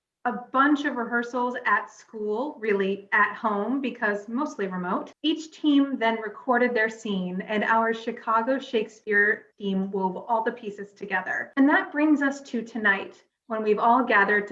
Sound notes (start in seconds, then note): none